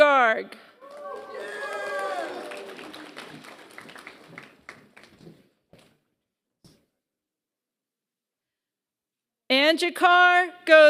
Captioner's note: applause